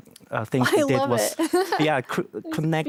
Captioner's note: giggles